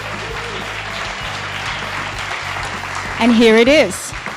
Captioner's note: applause